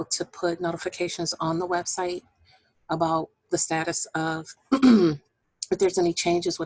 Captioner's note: clearing voice